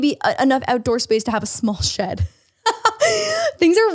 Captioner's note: laughs